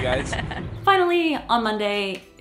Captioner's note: laughing